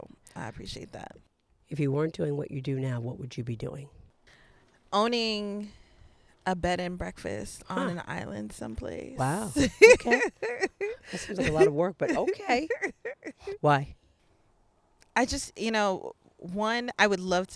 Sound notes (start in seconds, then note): 9.2 laughing